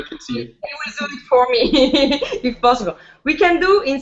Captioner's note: laughs